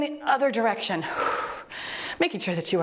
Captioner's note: exhales deeply